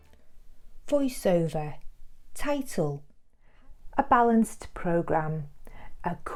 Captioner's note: voiceover